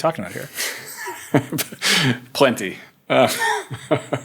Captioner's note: chuckles